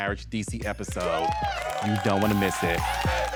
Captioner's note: audience cheering; r&b music playing